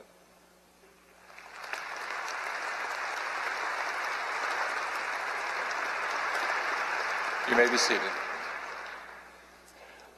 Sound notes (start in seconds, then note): 1.1 applause